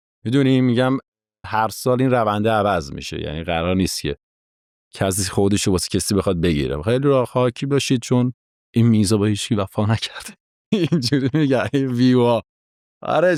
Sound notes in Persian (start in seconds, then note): 10.7 خنده